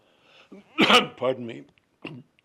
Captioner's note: coughing